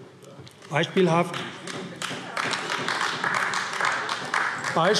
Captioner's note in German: Beifall AfD